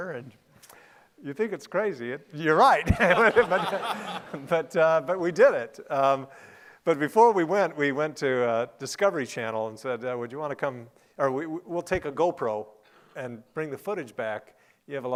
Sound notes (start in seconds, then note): 2.8 laughing